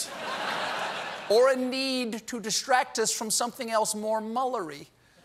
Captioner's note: laughter